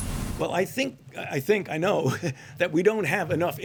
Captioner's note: laughs